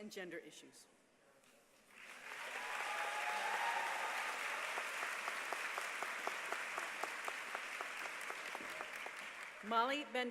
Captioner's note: applause